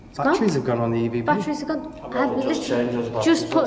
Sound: none

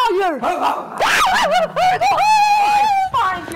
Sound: Sharik loudly barking; Natasha loudly shrieking

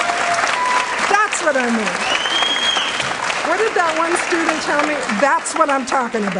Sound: applause

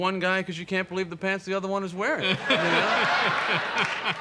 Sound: audience laughter

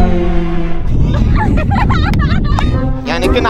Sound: laughing

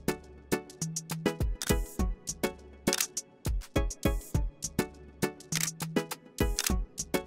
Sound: camera shutter clicks

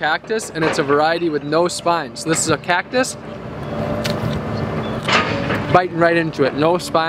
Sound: crunch

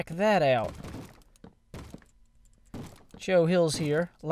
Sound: bang bang bang

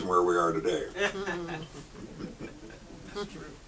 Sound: audience chuckles

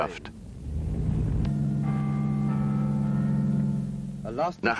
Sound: bells ringing

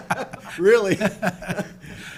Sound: people laughing

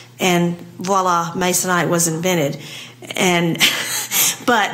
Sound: laugh

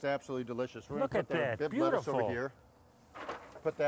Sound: lettuce thudding

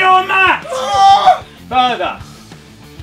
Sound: JJ screaming

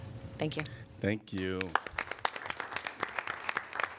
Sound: applause

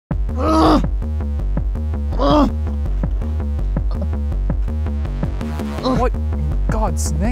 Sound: more groaning

